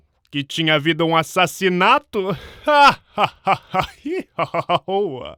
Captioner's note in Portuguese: Gargalha